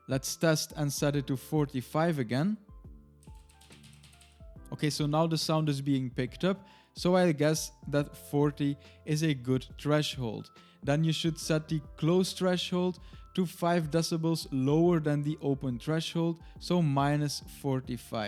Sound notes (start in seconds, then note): 3.2 keyboard clicks